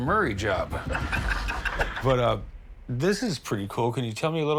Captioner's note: laughs